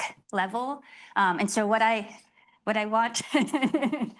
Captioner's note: laughs